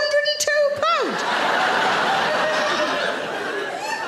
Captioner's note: audience laughing